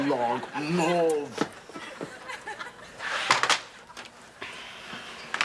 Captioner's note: audience laughing